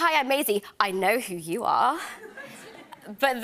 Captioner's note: laughter